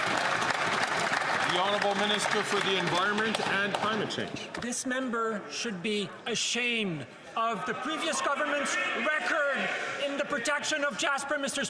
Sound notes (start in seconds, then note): 4.7 applause